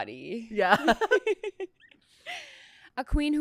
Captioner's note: laughs